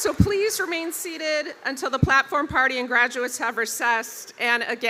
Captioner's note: cheers and applause